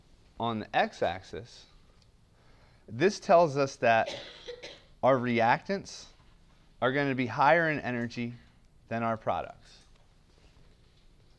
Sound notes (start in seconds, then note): 4.0 cough